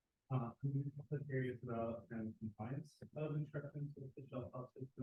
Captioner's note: speaker audio muffled